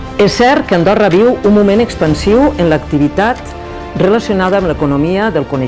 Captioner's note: speaks in foreign language